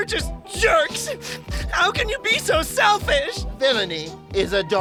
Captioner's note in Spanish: Llorando